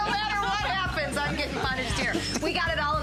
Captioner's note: laughter